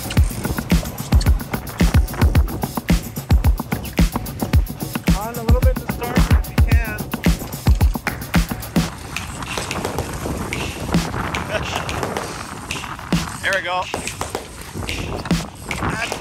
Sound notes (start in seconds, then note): 0.0 steady tempo drumbeat; 8.5 intermittent drumbeat; 8.5 rhythmic clicking